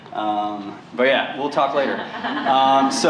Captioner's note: laughter